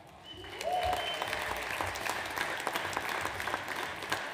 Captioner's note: audience applauds